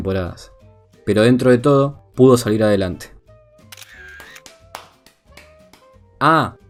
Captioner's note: applause